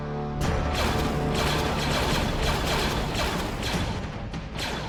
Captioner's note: slow dramatic music; blasters firing